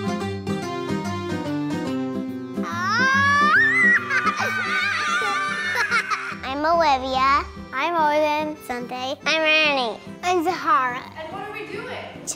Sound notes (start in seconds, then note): 2.7 children yelling and cheering